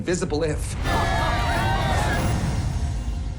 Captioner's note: all cheering